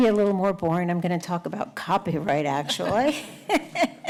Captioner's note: laughing